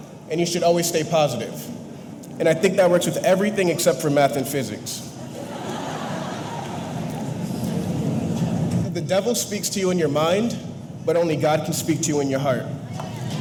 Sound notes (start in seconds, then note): 5.2 audience laughing